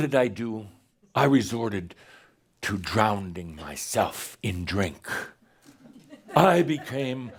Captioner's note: some giggles